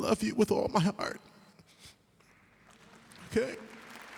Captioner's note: applause